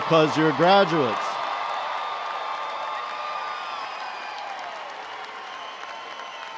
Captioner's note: crowd cheering and applauding